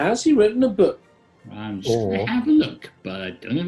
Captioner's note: raps